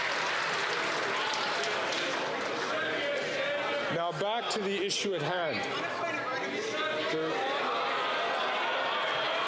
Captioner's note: some Applause